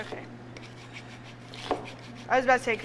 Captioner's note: zester grating; knife chops